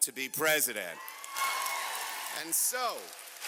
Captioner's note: cheers and applause